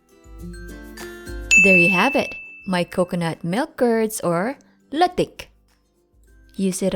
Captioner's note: timer dings